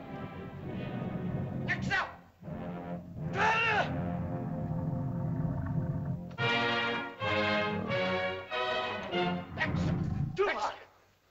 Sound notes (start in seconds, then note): 1.6 shouting in caveman language; 3.2 lizard grumbles; 6.3 triumphant music; 9.5 speaking in caveman language